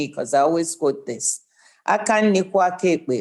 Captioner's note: speaking igbo